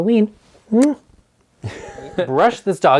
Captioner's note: kissing; laughing